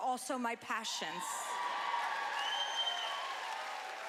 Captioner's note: cheering